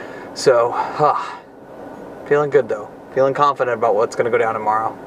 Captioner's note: sighs